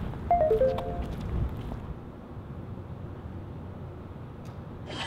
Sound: cell phone dinging

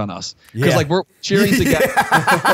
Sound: laughter

